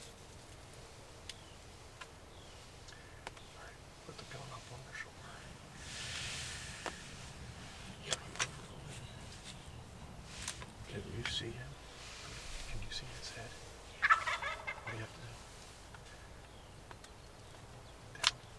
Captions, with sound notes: Alright put the gun up on the shoulder. Can you see him? Can you see his head? (turkey gobbling) How about now?